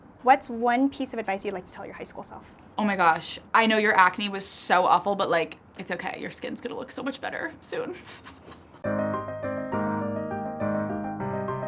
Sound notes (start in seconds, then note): 7.9 chuckles; 8.8 bright music